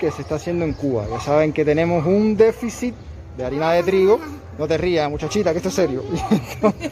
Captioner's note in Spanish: risas